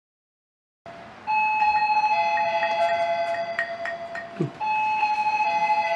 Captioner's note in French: sonnette de la porte